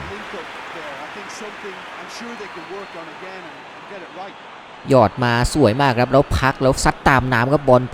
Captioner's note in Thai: ปรบมือ